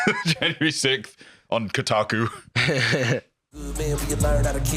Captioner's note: laughs